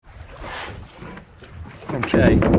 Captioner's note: waves crashing